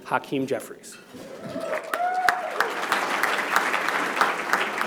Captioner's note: cheers and applause